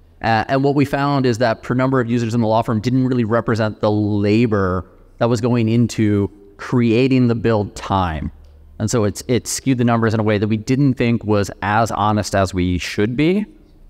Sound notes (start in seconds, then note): none